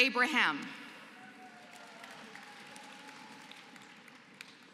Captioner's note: applause